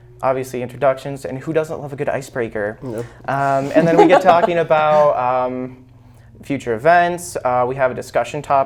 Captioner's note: laughs